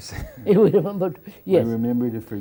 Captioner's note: laughs